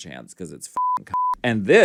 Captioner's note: beep